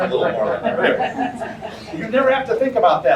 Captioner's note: audience laughter